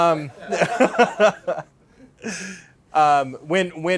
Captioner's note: laughs